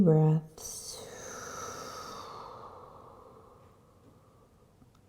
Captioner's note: breathing